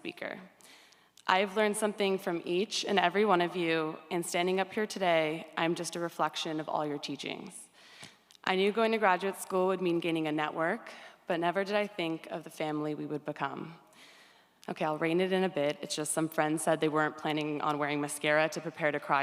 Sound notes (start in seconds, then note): none